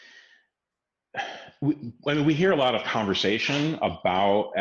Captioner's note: sighs